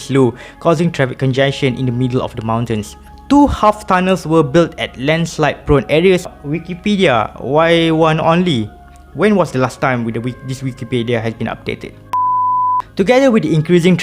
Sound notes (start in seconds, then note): 12.1 beep